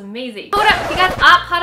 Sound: record Scratch

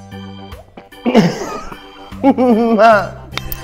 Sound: laughs

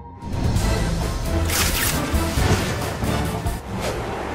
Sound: web Thwip

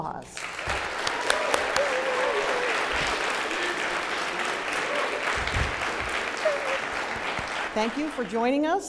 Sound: applause

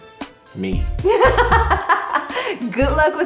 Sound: laughter

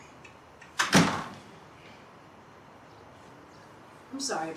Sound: door closes

